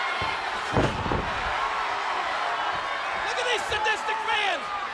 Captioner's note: audience cheers